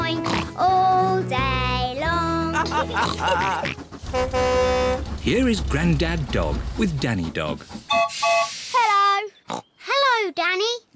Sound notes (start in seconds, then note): 2.5 all chuckle; 3.8 horn blares; 7.8 toots whistle